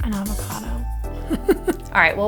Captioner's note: laughs